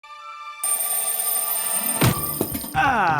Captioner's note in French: réveil qui sonne